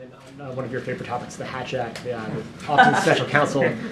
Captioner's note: laughs